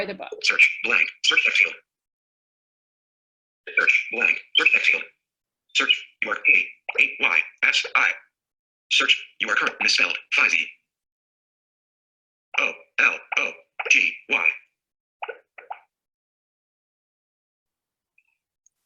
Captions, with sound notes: [Synthesized speech] reading the elements on screen...